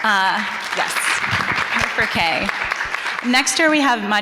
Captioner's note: audience applauding